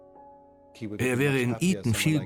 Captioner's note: voiceover